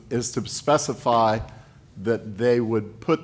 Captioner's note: none